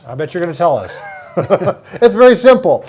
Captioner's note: both laugh